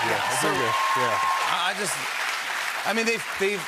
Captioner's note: cheers and applause